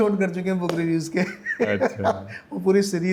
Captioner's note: laughter